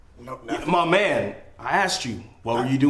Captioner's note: Carlton stammers